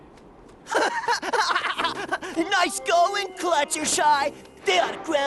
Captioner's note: laughs